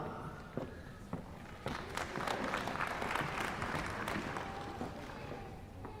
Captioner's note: applause